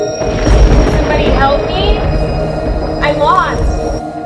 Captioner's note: thunder crashing